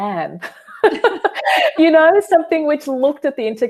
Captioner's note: laughing